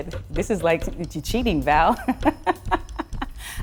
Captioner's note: laughs